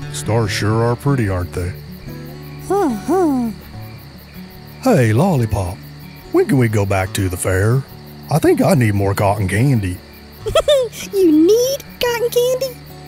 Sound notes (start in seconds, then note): 10.4 laughs